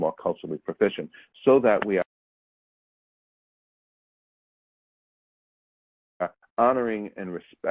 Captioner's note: audio drop out